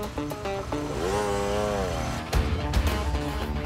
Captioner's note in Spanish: Ruidos de la motocicleta